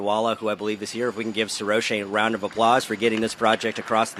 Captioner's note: applause